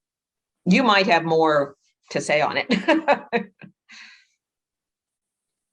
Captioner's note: laughs